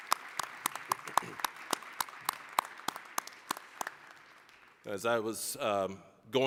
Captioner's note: applause